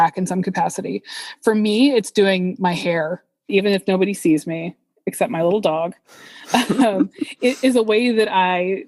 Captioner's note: both laugh